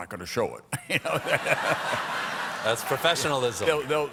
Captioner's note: laughter